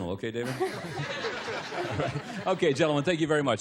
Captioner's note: laughter